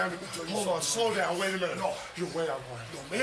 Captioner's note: none